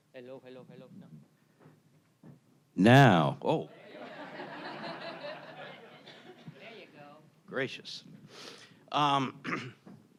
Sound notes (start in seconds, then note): 3.8 attendees laughing